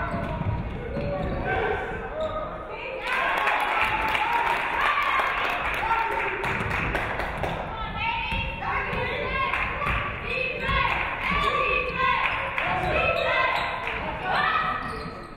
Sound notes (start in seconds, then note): 3.0 audience cheering; 3.0 audience clapping; 9.0 audience cheering